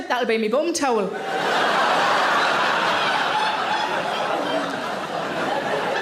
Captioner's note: audience laughing loudly